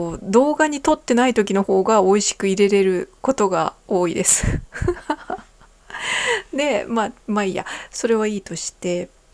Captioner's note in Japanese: 息をのむ音